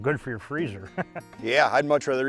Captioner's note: laughs